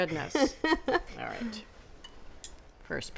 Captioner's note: laughs